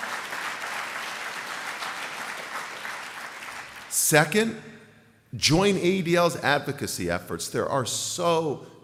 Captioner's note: applause